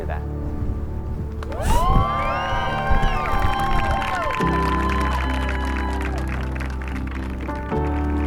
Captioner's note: crowd cheering